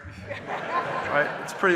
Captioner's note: audience laughing